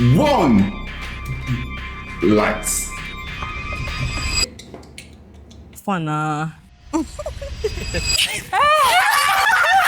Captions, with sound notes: one... Lights. how far now [laughs]